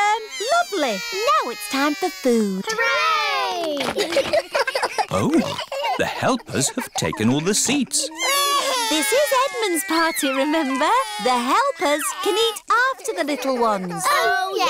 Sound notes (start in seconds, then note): 3.8 giggles; 8.5 babies crying